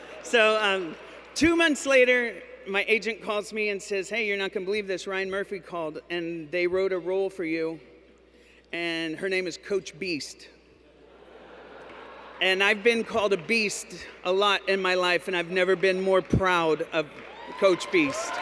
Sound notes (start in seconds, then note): 10.8 laughter; 17.2 cheers